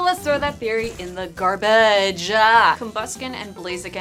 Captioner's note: whoosh, and a gentle fart noise as Pokemon land in the trash can